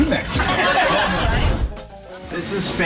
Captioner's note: group laughing